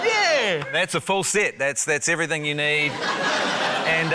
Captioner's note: laughter